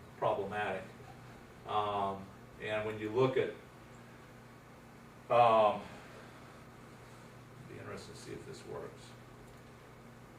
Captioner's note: pause